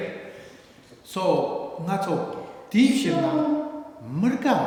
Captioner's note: speaking tibetan